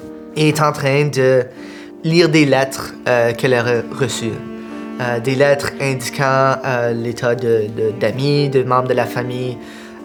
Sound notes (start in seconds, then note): none